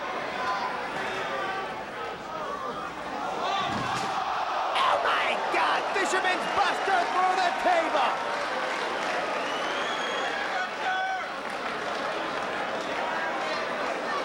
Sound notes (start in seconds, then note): 4.1 spectators exclaiming; 8.3 spectators applauding